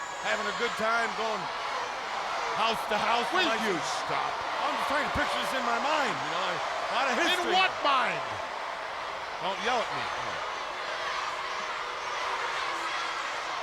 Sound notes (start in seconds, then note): 10.4 crowd yelling